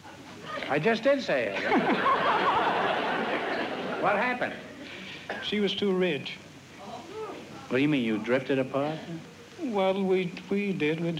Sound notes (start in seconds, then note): 1.5 laughter